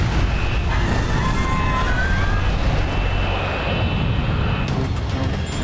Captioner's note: engine exploding; passengers screaming; sinister music